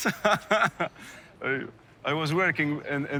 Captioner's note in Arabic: يضحك